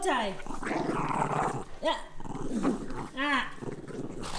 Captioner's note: growls